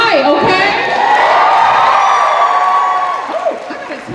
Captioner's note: cheers